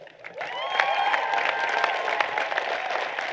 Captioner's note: applause